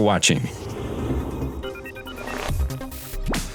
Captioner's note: metallic whooshing; electronic music